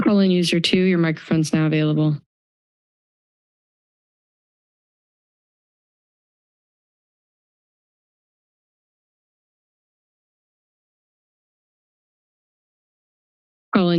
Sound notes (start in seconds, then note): 2.7 silence